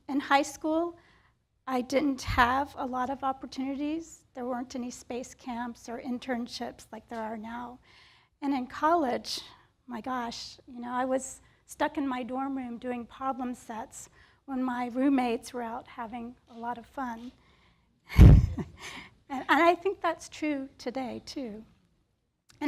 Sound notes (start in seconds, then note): 18.1 chuckles